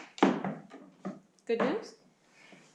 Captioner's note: footsteps